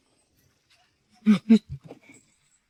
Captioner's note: snorts mockingly